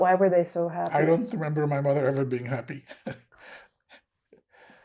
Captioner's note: laughing